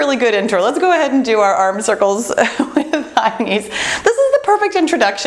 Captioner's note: laughs